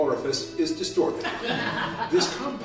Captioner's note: laughter